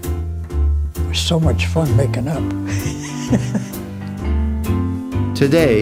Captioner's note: chuckle